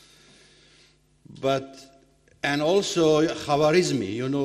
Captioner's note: speaking foreign language